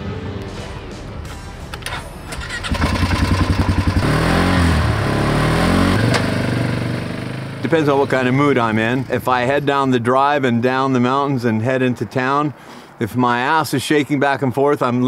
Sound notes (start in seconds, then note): 1.8 engine starting; 4.2 engine revving